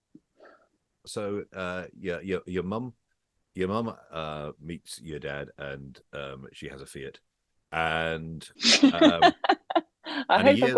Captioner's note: laughter